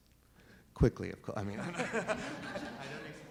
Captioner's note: laughs